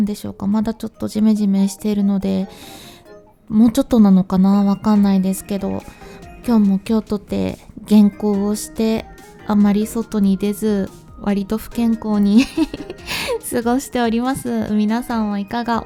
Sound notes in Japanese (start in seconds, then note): 12.3 笑い